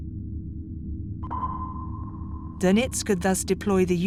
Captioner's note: sonar beeps